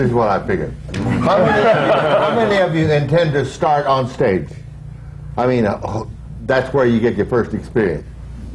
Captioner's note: laughter